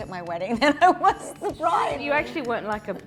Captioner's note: laughing